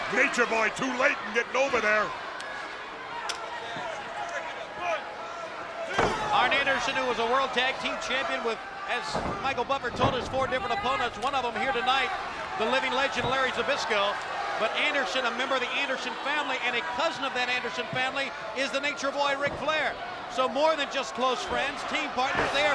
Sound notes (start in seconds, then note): 3.0 spectators cheering